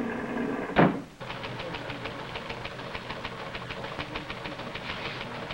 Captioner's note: storm sounds; door slams; machine clicks